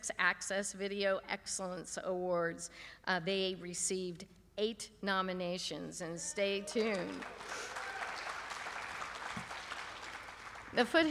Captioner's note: applause